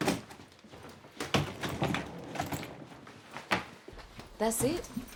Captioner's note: luggage rolling